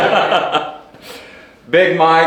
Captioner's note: laughing